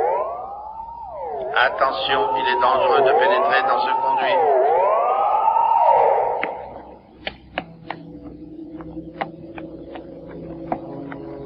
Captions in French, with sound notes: [Alarme] [Voix Robotique Masculine] Attention, il est dangereux de pénétrer dans ce conduit.